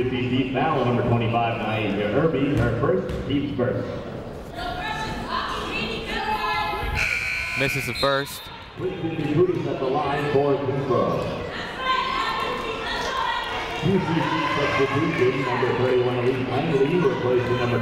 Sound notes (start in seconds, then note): 6.6 people shouting in the crowd; 7.0 buzzer ringing; 9.5 muffled voice speaking over speaker; 11.6 people shouting in the crowd; 14.1 muffled voice speaking over speaker